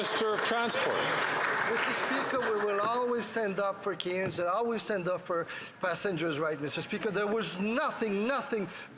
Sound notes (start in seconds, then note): 2.9 some Applause